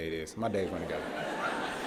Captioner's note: laughter